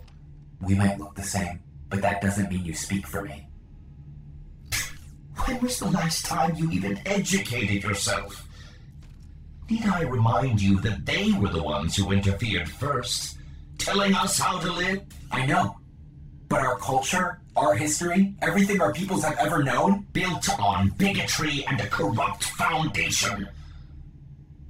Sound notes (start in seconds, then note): 4.5 scoffs